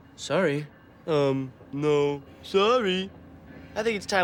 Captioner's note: mocking